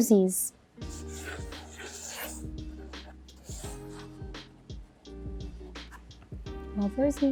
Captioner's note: mellow music; pen scribbles